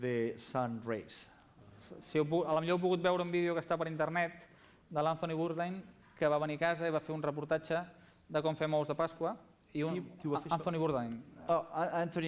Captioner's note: non-english speech